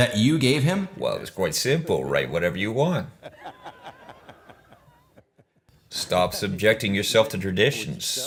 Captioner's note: laughs